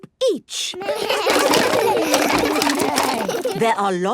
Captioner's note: all laugh